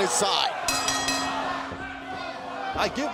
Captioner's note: bell ringing